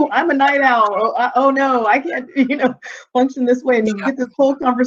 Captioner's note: chuckling